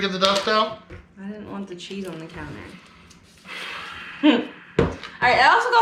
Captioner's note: sighing